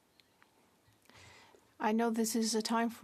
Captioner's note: speaking French